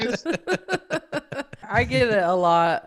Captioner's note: laughing